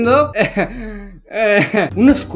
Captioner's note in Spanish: Risas extrañas